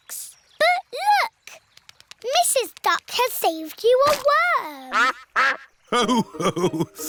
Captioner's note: quacks